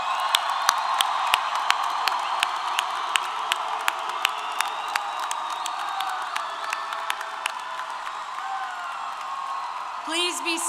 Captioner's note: applause & Cheers